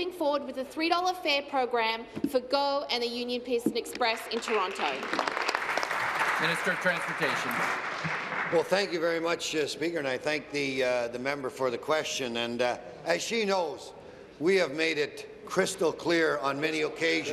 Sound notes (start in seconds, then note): 8.8 applause